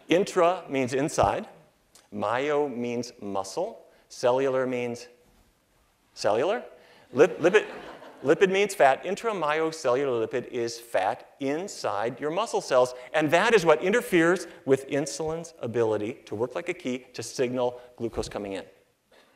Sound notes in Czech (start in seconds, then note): 7.3 Smích